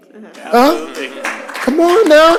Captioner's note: applause